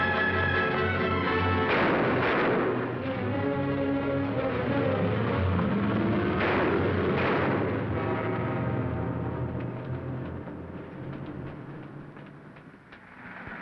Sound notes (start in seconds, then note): 1.2 gun firing